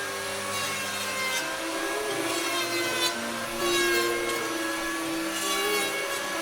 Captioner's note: gentle music; saw buzzing